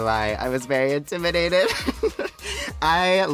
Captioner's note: laughing